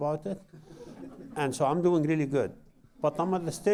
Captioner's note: laughter